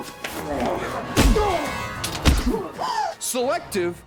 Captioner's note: grunting; bashing